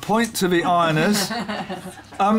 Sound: laughter

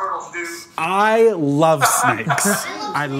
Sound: laughs

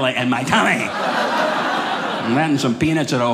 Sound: audience laughing

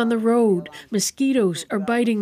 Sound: speaking alternate language

